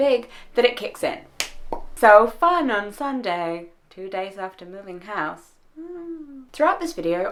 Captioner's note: clap